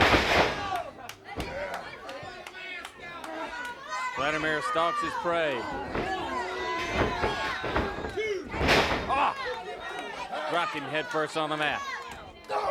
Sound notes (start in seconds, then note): 0.2 ring shudders; 7.9 ring shudders